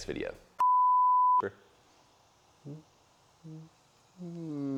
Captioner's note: beep; humming